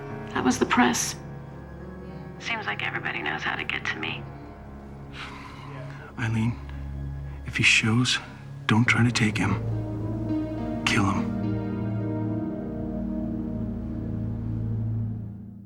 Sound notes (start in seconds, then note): 5.0 sighs